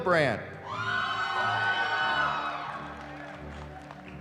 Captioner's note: cheering